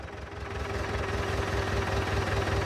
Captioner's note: engine noises